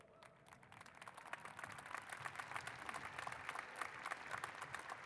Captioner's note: applause